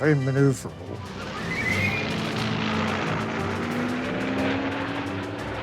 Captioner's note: plane engine roaring